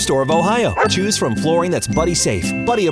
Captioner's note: dog barking